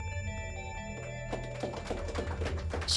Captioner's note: applause